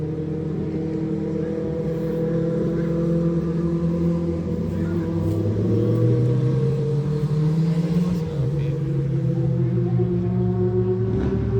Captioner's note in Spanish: sonido de moto pasando